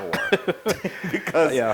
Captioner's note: laugh